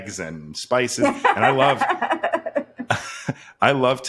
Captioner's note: laughs